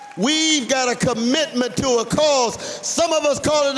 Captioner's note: applause